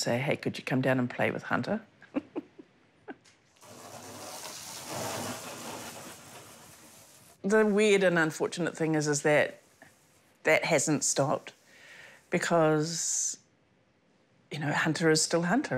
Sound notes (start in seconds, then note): 2.0 chuckles; 3.7 water sprays